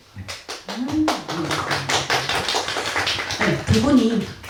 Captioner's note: applause